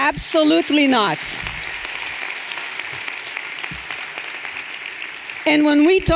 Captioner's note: everyone applauding